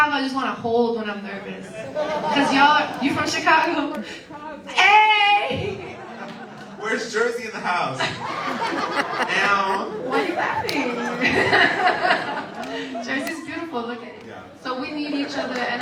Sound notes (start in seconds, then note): 5.2 cheers; 9.0 audience laughs; 11.2 laughs